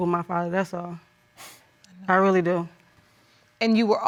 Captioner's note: sniffs